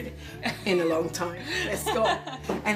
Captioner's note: laughing